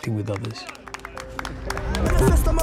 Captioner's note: cheering, whistling; rap music